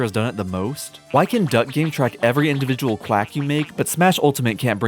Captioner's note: quacking